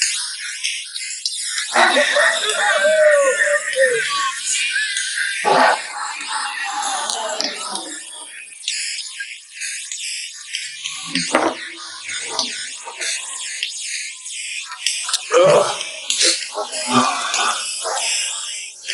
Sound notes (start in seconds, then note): 1.4 group chattering; 15.3 groans